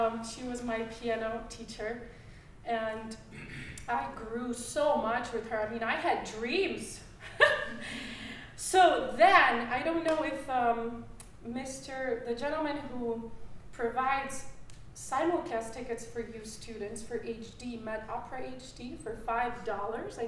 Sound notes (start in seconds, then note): 7.2 laughing